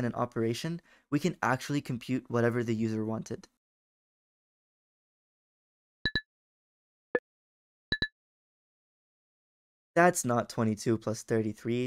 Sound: silence

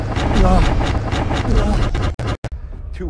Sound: moans; moans again

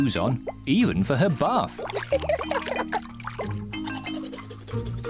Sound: giggles

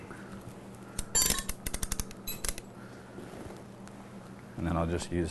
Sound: ratcheting sound

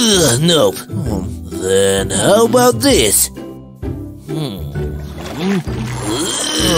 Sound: grunting; grunting

